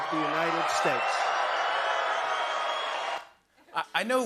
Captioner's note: cheers and applause